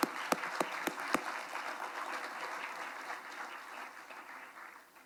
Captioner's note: attendees applauding